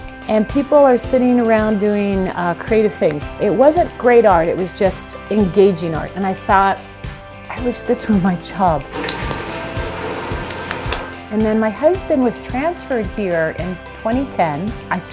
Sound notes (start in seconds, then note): 10.1 slaps